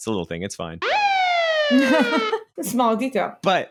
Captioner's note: sirens